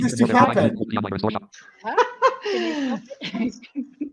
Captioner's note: chuckles